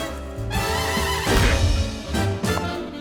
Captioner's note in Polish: uderzenie